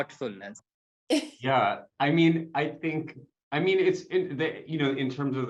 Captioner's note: chuckles